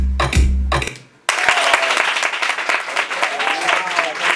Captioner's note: applause